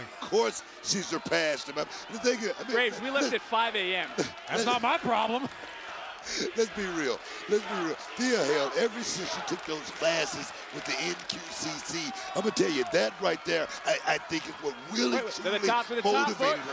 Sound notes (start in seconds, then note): 6.8 laughs